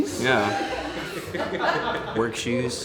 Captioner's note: laughing